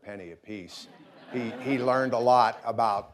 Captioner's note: audience laughing